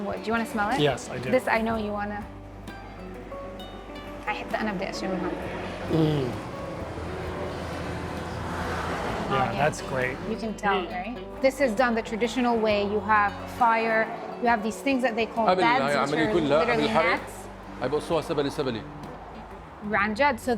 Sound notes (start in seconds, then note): 3.6 speaking Arabic; 17.3 speaking Arabic